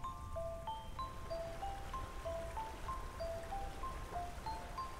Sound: running water

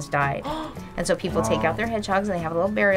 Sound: gasps

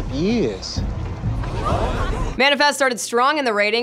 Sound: crowd murmurs

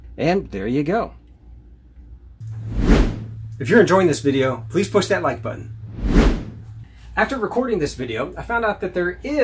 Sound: swoosh

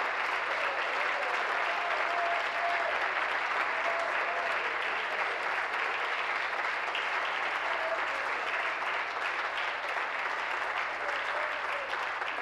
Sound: applause

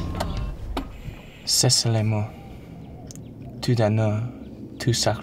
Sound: speaking french

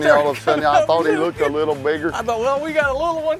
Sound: laughing

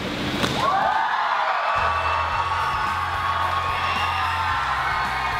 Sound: group gleefully cheering

